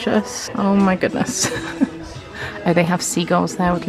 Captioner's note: chuckles